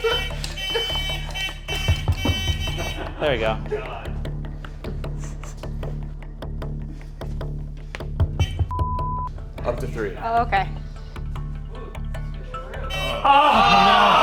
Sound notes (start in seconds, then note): 0.0 hooter buzzing; 4.4 intense music; 8.4 hooter buzzing; 8.6 beep; 11.7 intense music; 13.2 hooter buzzing